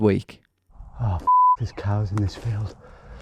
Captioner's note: beep